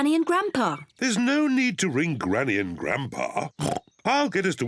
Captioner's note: oinks